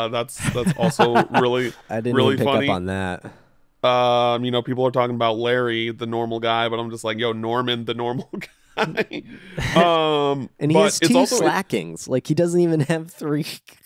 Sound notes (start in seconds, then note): 8.7 laughs